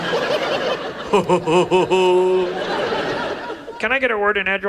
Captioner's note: audience laughs; Ted E laughs